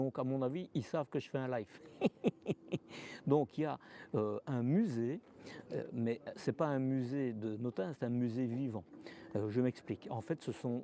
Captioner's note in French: rires